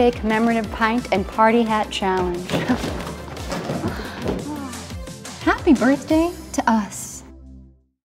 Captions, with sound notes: Commemorative Pint and Party Hat Challenge! (laughing) Happy birthday to us!